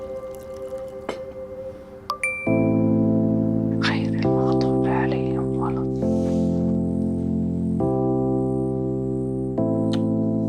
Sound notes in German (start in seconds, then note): 2.0 iPhone ertönt